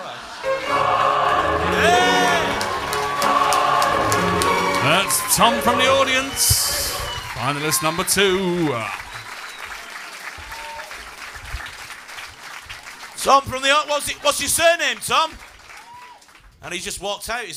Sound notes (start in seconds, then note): 1.6 applause and cheers; 8.7 applause